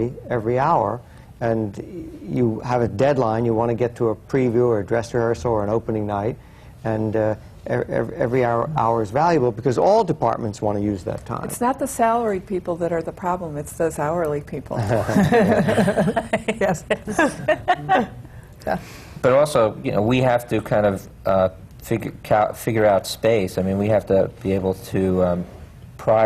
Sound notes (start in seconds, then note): 14.8 laughter